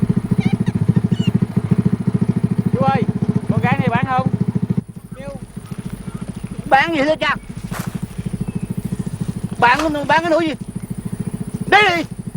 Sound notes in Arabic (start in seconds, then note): 2.7 الصوت المنطوق باللغة الفيتنامية